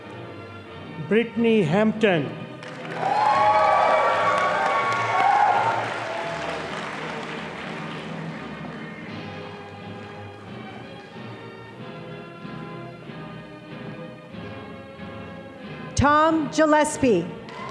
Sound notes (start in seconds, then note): 2.6 audience applauding